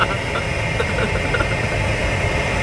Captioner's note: laughs